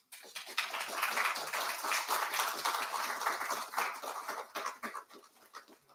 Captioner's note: applause